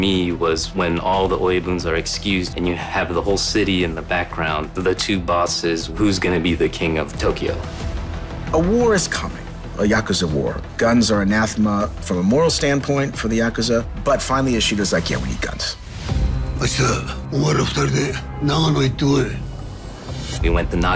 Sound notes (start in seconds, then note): 16.1 speaking in japanese